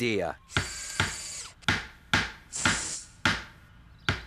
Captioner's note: hammering